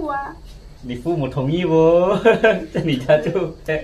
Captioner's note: ha ha